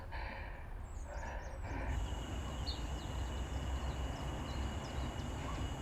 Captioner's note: heavy breathing